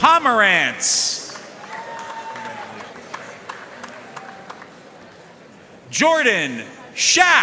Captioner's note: audience cheering and applauding